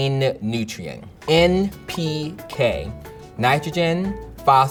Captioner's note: sound effect pops